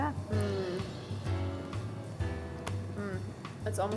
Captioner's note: hums